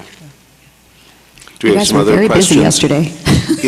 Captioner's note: laughing